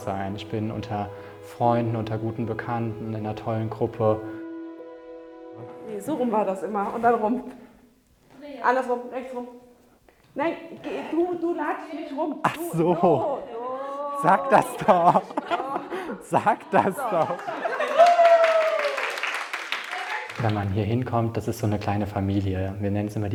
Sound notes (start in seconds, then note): 12.4 laughing; 17.2 cheers, applause